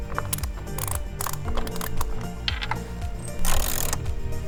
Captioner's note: wrench cranks